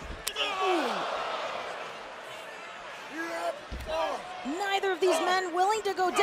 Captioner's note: crowd cheering